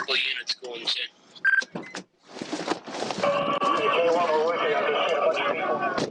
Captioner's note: policemen chattering over radio